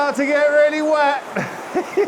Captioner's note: laughing